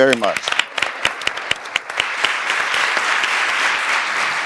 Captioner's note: audience applauding